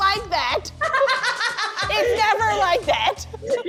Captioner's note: laughs